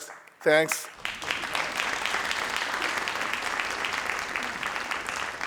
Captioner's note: crowd applauding